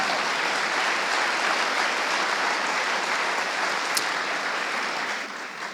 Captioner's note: audience applauding